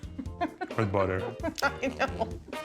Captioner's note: laughing